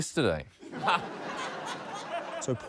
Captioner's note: laughter